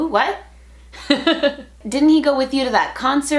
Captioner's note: laughter